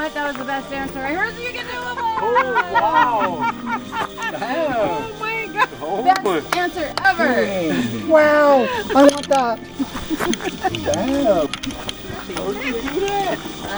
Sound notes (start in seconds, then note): 7.0 people laughing